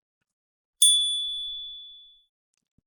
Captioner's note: chime